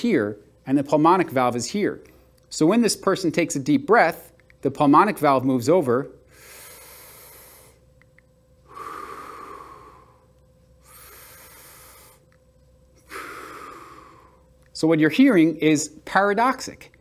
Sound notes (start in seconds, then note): 8.6 breathing